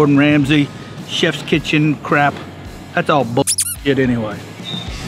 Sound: squeak

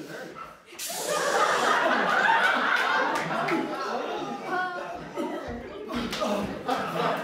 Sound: force choking noises

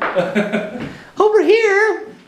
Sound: laughing

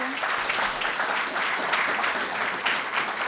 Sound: applause

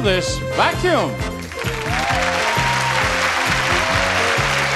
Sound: audience applauds

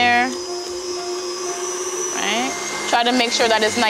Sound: whirring

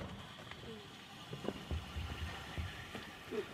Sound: hissing

